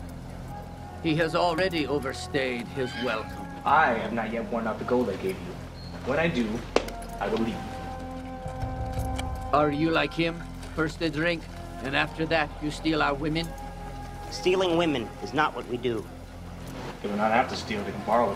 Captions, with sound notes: He has already overstayed his welcome. - I have not yet worn out the gold I gave you. When I do, (clap) I will leave. - Are you like him? First they drink, then after that you steal our women? - Stealing women is not what we do. - You don't have to steal.